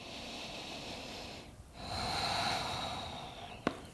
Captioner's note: breathes deeply